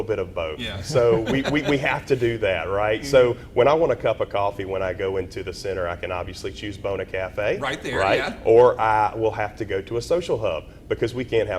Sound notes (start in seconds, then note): 0.6 laughs